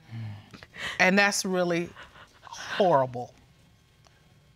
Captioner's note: sobbing